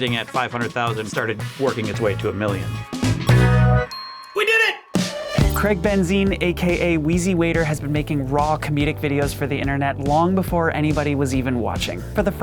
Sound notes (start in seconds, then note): 3.0 upbeat music; 3.7 bell dings